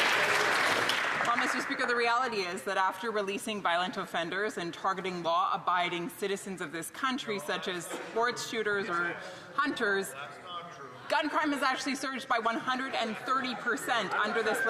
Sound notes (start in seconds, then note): 1.9 some Applause